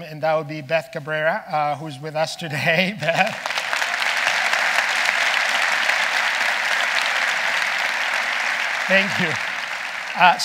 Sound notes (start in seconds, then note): 3.1 audience applauding